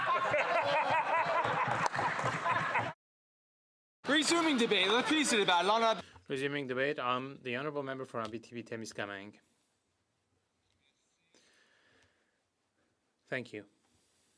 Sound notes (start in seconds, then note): 6.6 laughter; 10.6 speaking French